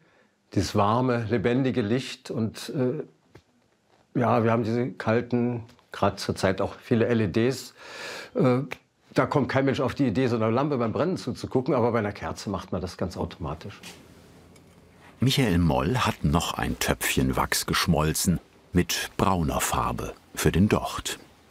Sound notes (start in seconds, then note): none